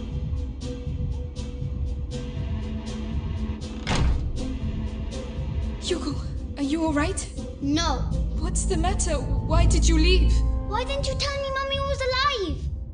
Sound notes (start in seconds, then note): 3.6 door shuts